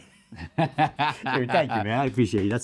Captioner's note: laughing